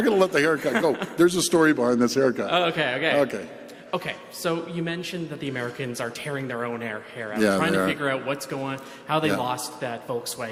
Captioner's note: laughter